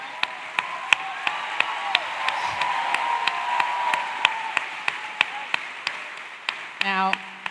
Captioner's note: applause